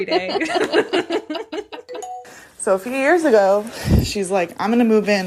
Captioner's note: bingbong